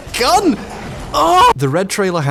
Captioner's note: squeals